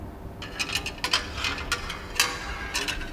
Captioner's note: metallic sounds